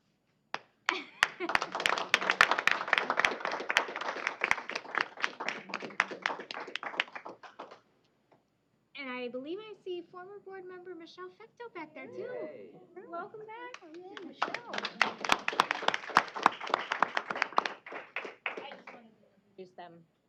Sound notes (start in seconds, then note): 0.8 applause; 13.6 applause